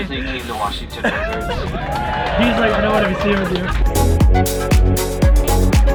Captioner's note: crowd cheering; upbeat techno music